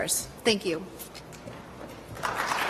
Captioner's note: applause